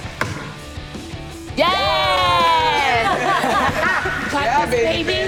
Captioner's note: laughter